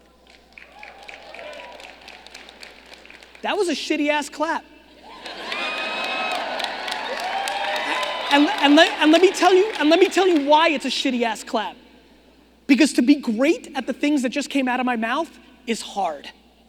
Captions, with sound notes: (audience clapping) That was a shitty ass clap. (audience laughing) And, let me tell you why it's a shitty ass clap. Because, to be great at the things that just came out of my mouth, is hard.